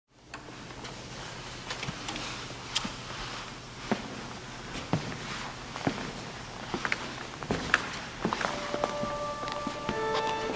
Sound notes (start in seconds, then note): 0.0 footsteps and Natural Sound; 8.6 cinematic Music